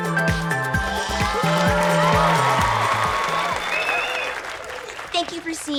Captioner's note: audience applause and cheers